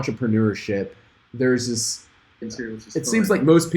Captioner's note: man talking